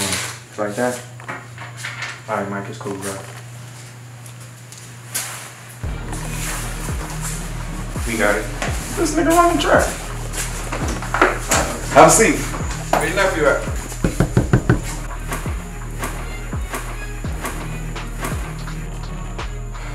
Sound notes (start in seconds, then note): 13.8 door knocks